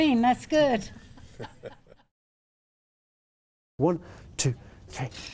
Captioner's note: laughing